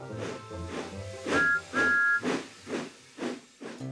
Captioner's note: train engine chugging; whistle toots